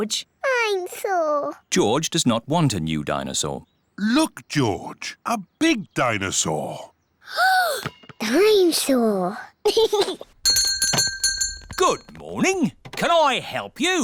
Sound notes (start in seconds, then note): 7.0 gasps; 9.6 giggles; 10.4 bell rings